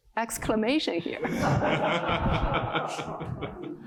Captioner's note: laughter